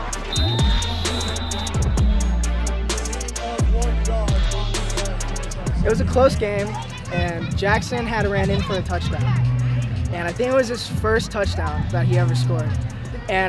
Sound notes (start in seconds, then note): 0.0 whistle blows